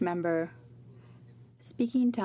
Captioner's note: speaking French